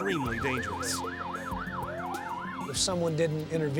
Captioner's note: sirens blaring